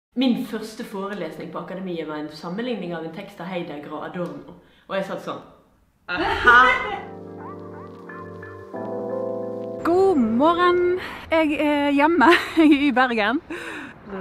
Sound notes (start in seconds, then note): 6.1 haha